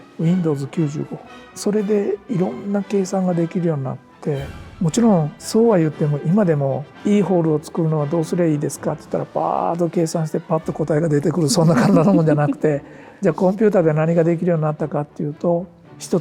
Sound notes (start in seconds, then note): 11.5 laughs